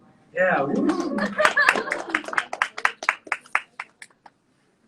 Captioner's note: audience cheering